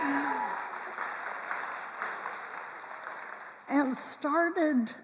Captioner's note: attendees applauding